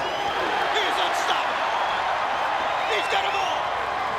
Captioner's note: crowd cheering